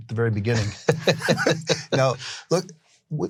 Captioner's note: laughing